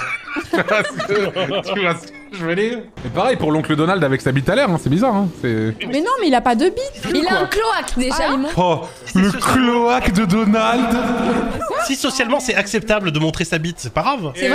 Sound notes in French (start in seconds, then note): 0.0 rires; 9.2 avec réverb